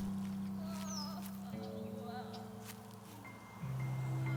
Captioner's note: woman crying